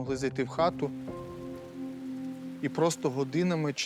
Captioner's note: rain pattering gently